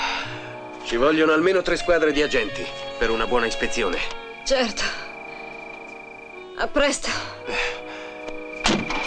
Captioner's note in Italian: sospiri